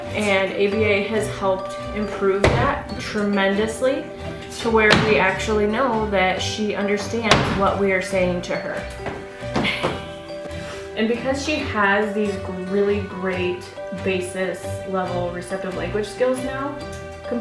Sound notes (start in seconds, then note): 9.6 laughs